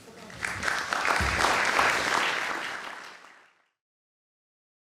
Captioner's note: applause